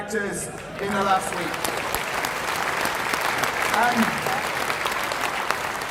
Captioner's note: applause